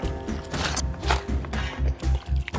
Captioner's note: water sloshing; dirt crunching; water sloshing